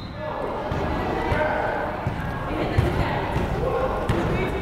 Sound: whistle blows; crowd chattering

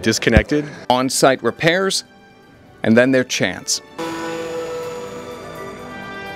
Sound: plane sound

